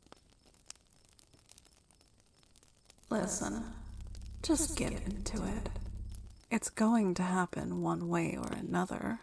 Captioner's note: echoing